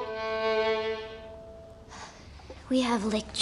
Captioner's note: <i> sighs</i>